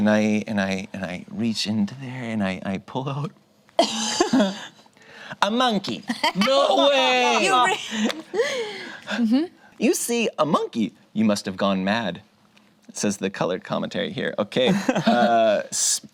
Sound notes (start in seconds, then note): 4.2 laughing; 14.7 laughs